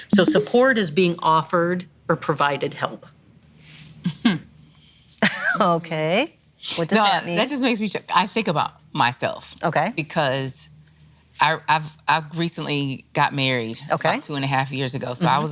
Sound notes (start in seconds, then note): 3.9 chuckles